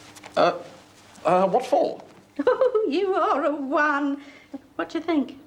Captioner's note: laughs